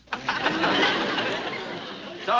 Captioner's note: laughter